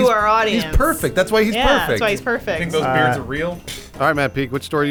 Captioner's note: pfff